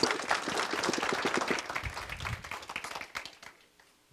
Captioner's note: clapping